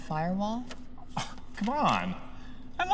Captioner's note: scoff